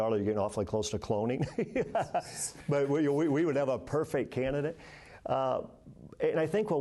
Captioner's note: laughter